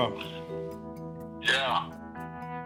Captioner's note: on phone